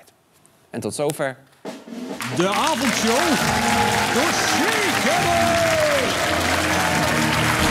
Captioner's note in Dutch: applaus